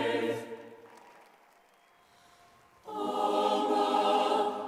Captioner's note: crowd applauding